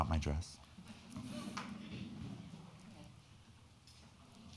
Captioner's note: crowd laughing